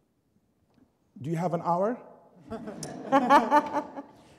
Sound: laughter

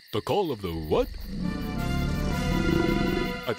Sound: growling

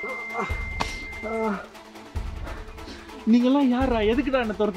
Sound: groaning in pain

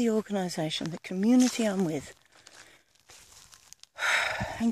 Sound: sigh

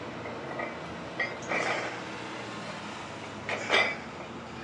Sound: iron clanking

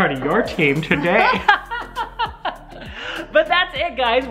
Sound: laughter

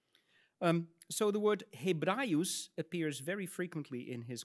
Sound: speaks in Latin

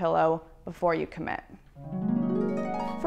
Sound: chimes

